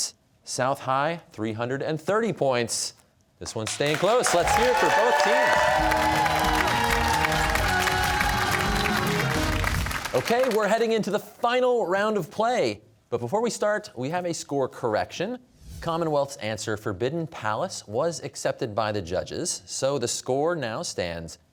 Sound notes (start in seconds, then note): 6.0 cheers and applause